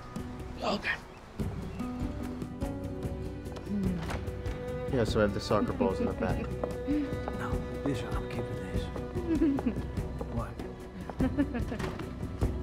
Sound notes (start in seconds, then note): 3.8 door opens; 9.2 Lettie laughs